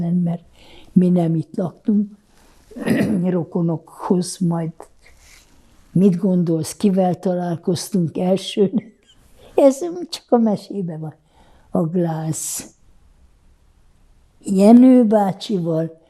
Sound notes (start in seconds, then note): 2.8 clears throat; 8.2 laughing